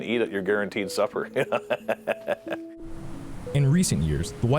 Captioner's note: laughs